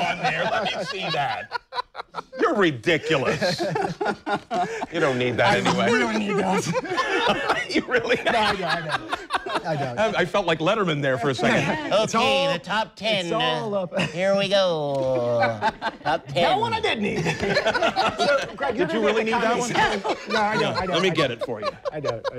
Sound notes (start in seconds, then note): 5.2 laughing